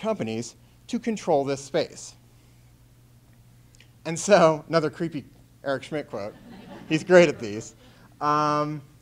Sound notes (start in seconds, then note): 3.1 chuckles